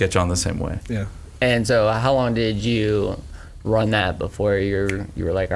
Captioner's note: snaps fingers